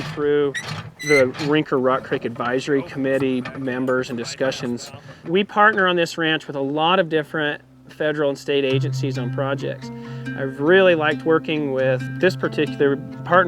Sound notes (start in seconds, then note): 2.5 people chattering